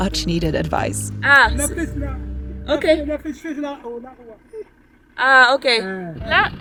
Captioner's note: both speaking in foreign language